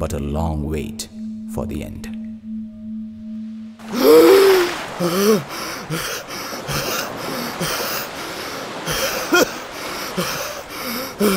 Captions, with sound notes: But a long wait for the End! [Gasps] [Gasping and Coughing]